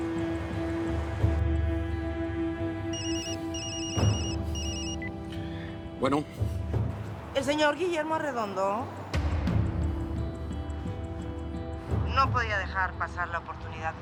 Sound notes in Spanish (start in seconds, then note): 2.9 Suena el celular